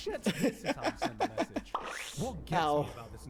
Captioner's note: laughing